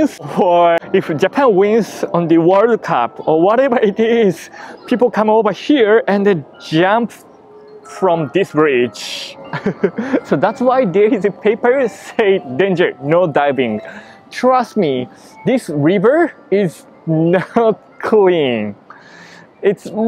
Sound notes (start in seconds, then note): 9.4 laughs